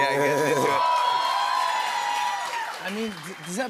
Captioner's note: cheers and applause